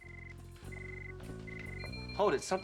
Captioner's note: beeping